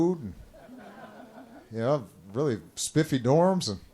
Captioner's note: laughter